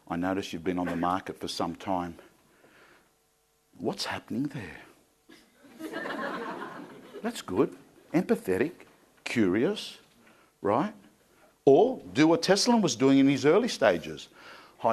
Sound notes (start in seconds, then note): 5.6 crowd laughing